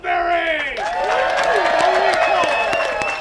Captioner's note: applause